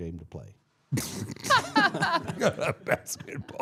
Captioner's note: all laughing